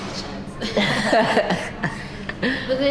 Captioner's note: awkward laughs